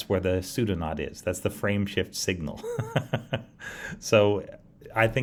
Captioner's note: laughs